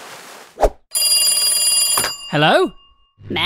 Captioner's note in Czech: zazvoní telefon